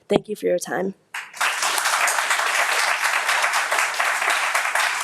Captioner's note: audience applauds